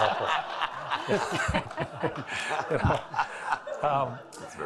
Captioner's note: all laughing